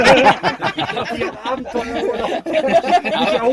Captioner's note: laughing